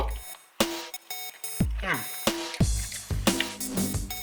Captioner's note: nom